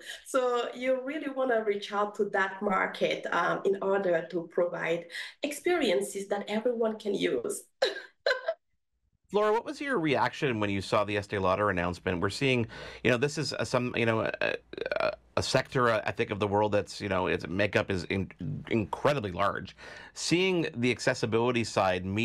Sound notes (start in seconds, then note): 7.8 giggles